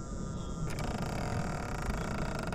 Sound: floorboard creaking

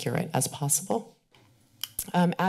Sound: kisses teeth

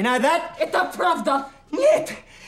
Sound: speaking russian

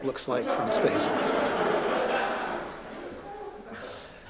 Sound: laughter

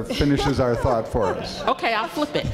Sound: laughing

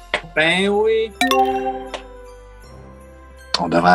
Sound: notification chimes

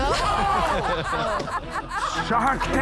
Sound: laughter

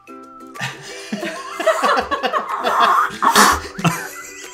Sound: blows air; all chuckle

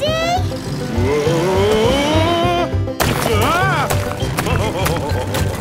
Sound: laughing

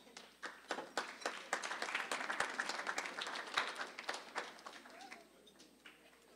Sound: applause

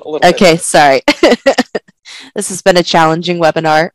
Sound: laughter

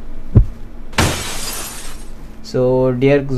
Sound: glass break

